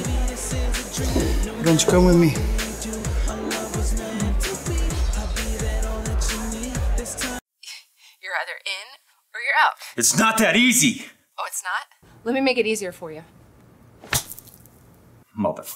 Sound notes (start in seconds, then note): 13.5 slamming phone